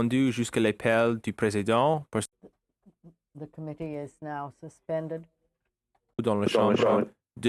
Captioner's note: speaking French